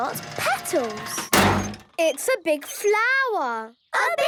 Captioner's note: crane beeping